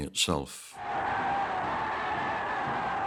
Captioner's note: cheering